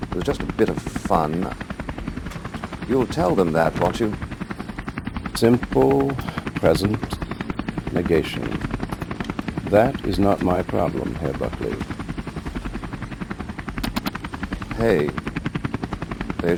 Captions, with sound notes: It was just a bit of fun. You'll tell them that, won't you? Simple present… ...negation. That is not my problem, Herr Buckley. [TINY WHOOSHES] Hey!